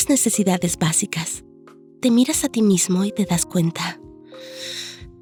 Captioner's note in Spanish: Suspiro